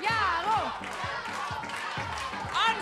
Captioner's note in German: Anfeuernde Rufe